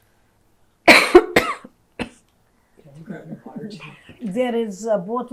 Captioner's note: coughing